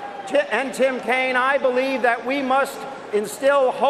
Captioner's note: cheers and applause